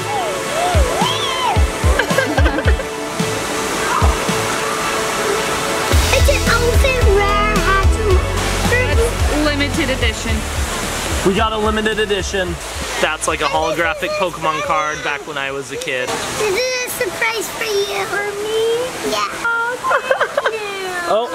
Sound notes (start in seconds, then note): 0.2 squealing; 1.9 chuckling